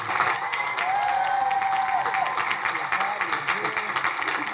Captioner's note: crowd cheering